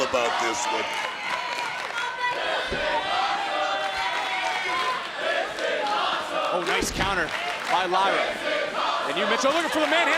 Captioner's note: applause